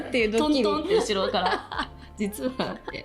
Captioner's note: tap Tap